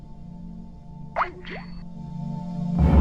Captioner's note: call disconnect sound